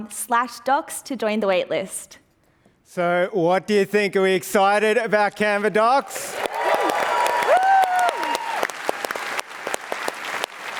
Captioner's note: applause